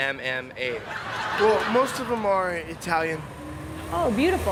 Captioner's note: laugh